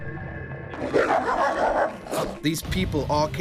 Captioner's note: barking